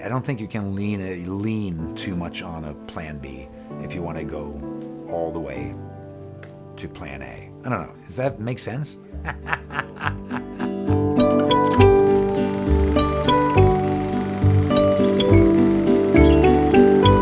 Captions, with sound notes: And I don't think you can lean too much on a plan B if you wanna go all the way to plan A. I don't know, does that make sense? (laughs) (gentle music)